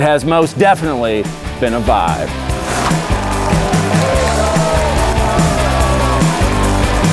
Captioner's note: bright music; audience applauding